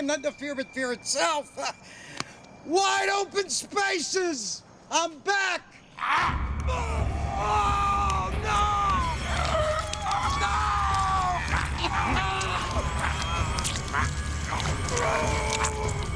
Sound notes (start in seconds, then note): 0.2 chuckles; 9.0 screaming; 13.6 groaning